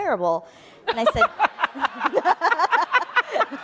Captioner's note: laughing